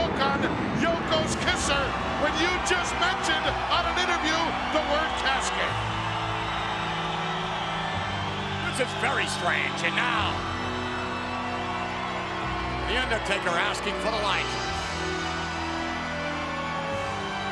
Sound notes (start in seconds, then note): 6.3 crowd cheering; 14.7 dramatic music